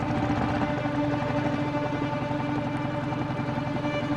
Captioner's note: engine rumbling; nervous music